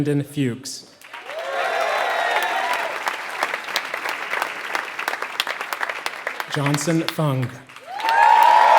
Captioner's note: applause